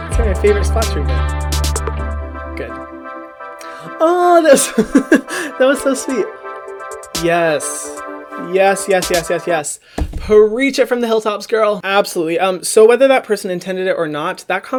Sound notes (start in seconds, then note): 1.4 upbeat music; 4.6 laughs; 6.3 upbeat music